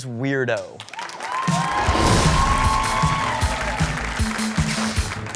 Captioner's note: crowd applaud and cheer